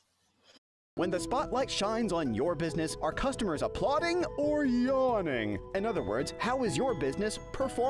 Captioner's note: voiceover